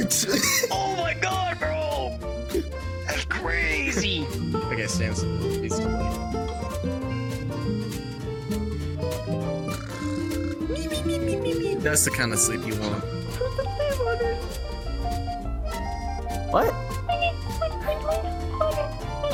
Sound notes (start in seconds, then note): 0.0 laughing; 9.9 snores; 13.5 high-pitched gibberish; 17.1 high-pitched gibberish